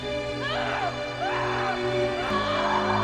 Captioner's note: slow solemn music; Banta screams